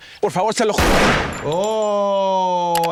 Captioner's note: person speaks in Spanish; gun shot blares